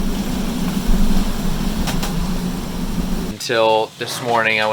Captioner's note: wind howling